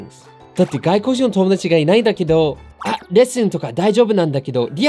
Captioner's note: speaking in foreign language